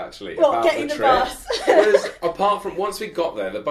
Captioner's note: giggling